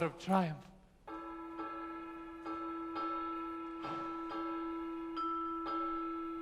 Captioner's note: the ship's bell is rung